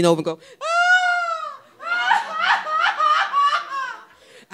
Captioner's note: crying loudly